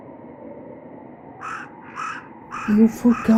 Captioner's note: crows